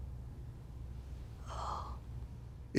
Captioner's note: whispers